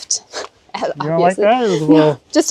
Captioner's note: chuckling